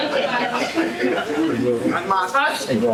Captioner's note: laughter